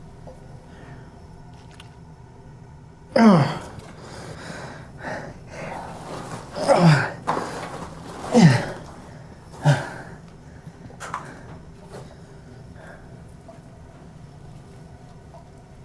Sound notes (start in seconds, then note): 0.9 Miles sighs; 3.1 Miles groans; 8.3 Miles groans